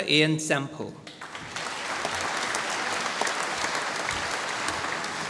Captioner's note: applause